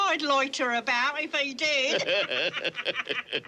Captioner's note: both laugh